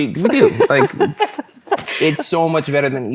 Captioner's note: laughing